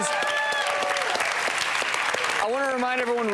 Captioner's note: audience applause